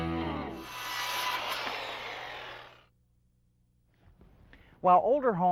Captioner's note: circular saw sounds